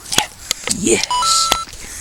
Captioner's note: coin sound effect